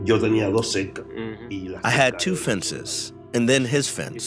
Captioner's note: speaking Spanish